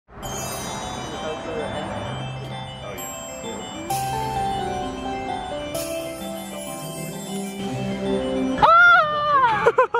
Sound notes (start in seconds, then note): 0.1 happy, upbeat music; 8.6 happy Shriek